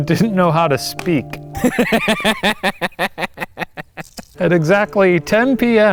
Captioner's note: chuckles